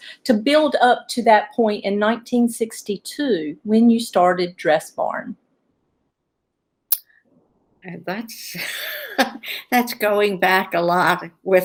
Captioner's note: laughs